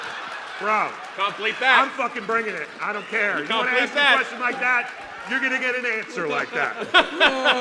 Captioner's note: laughter